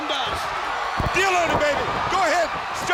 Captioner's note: crowd cheering; blows thudding